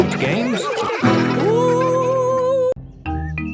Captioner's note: laughter